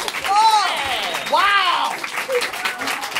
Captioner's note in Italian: applausi